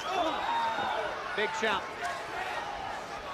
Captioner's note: crowd chatter